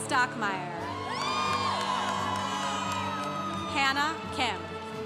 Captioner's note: congregation cheering